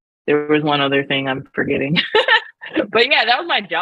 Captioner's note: laughs